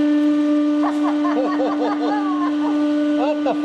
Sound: both: laughing

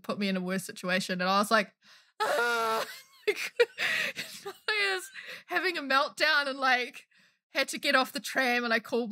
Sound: wails

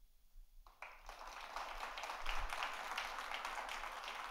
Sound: audience applauds

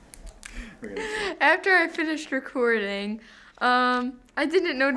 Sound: laughs

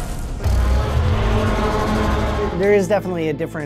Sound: intense roaring

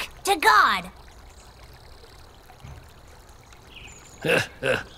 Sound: water trickling

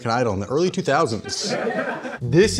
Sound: laughing

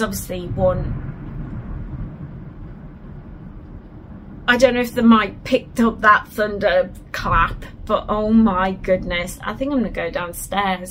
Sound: thunder

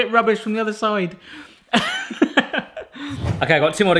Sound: chuckle; wind gust transition effect

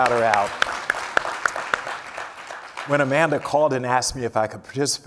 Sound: applause

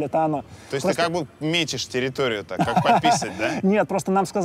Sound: laughs

